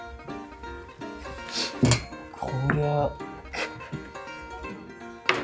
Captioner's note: laughs